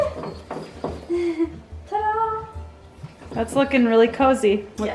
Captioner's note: giggles